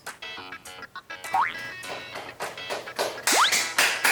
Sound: clap

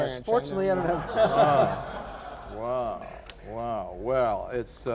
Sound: laughter

